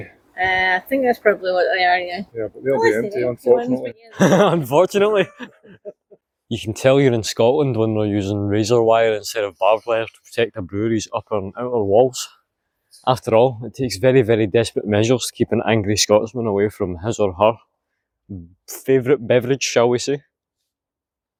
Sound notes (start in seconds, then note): 4.1 laughter